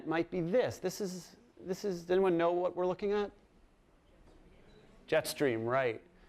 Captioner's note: voiceover